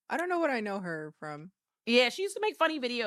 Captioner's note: none